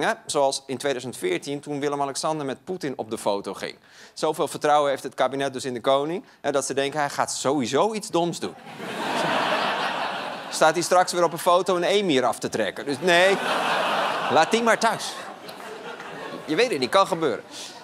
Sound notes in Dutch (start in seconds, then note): 8.6 gelach; 13.4 gelach